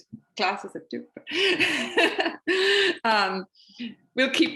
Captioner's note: laughs